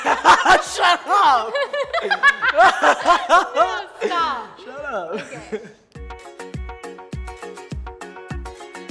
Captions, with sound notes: - (laughs loudly) Shut up! - (laughing loudly) No, stop! - Shut up. - Okay. (upbeat music)